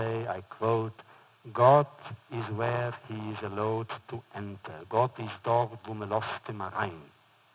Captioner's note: foreign language